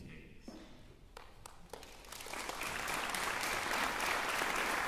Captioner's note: applause